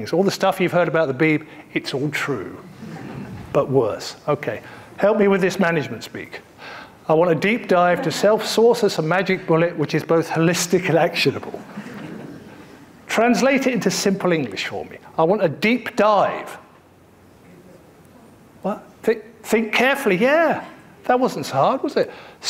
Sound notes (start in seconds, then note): 17.6 audience murmuring